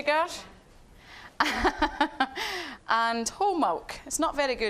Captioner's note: laughing